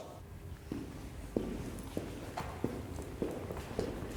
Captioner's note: feet clomping